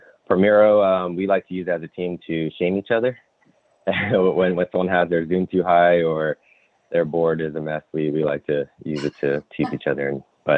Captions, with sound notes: For Miro, we like to use as a team to shame each other, (giggles) on how they're doing too high, or their board is a mess. We like to use it to tease each other,